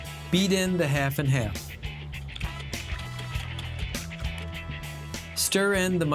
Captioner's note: whisking